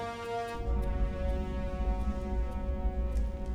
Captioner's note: alarm quiets